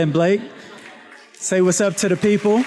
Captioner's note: students laughs